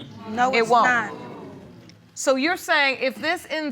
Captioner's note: audience groaning